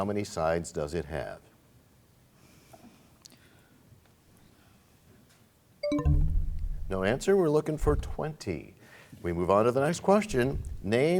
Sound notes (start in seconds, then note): 5.8 bell chimes, time expires